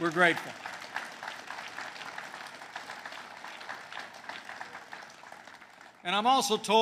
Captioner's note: applause